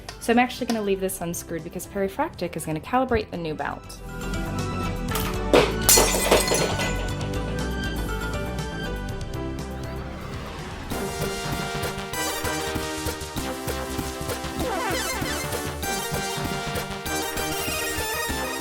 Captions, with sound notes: So I'm actually gonna leave this unscrewed because Perry Fractic is gonna calibrate a new belt. (smashing noise) (video game music)